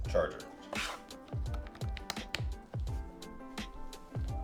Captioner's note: charger clacking